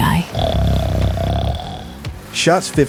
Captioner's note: snoring